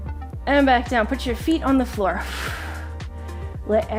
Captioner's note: exhales heavily